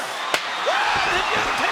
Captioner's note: chair slams